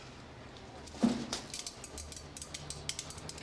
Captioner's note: pills falling